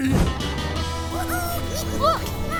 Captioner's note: squeaking